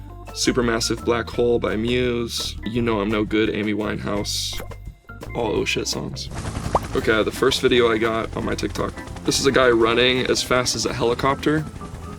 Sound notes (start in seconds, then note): 6.2 helicopter